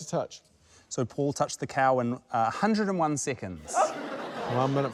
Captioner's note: laughter